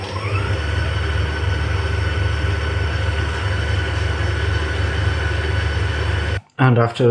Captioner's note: machine whirring